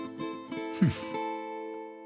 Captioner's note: sad guitar outro; scoffs; sad guitar outro